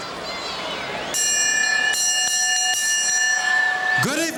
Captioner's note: bell rings